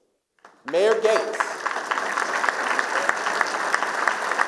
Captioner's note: applause